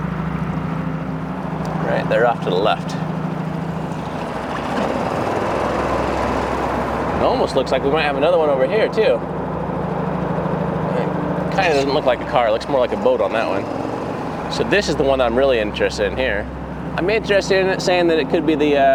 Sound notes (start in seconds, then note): 4.6 boat engine roaring